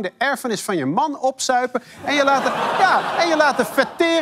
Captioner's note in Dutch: gelach